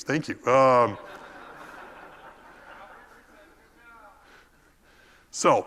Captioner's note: laugh